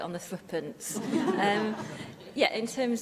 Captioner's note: laughter